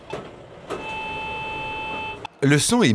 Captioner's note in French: bip continu